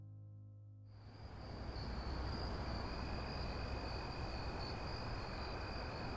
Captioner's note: crickets chirping softly